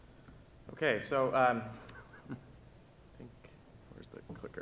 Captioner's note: laughs